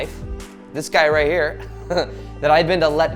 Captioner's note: laughs